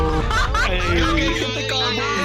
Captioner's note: laughing